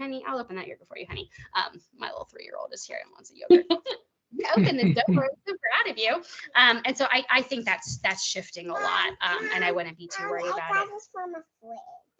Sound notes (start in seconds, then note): 3.5 chuckling